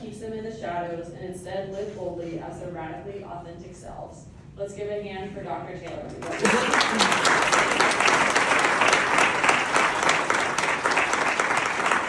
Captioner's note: applause